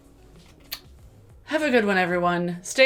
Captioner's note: kiss smacks